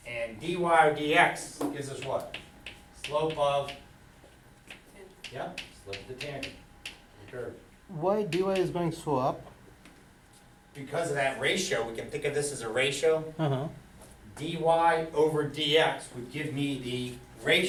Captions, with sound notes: And dy or dx, gives us what? Slope of... Yeah, slope of the tangent, curve. - [Voiceover] Why you guys going so up? - Because of that ratio, we can think of this as a ratio, dy over dx, would give me the ratio,